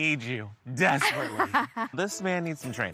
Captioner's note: laughs